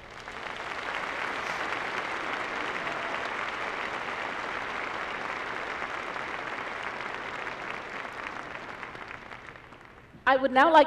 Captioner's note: applause